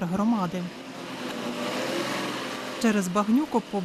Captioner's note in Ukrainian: Їде автобус